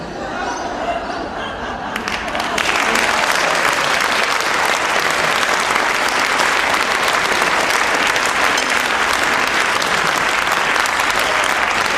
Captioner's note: audience applause